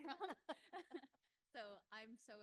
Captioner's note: panel laughs